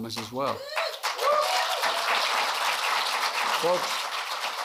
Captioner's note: applause